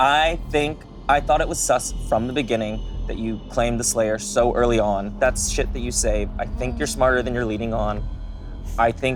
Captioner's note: none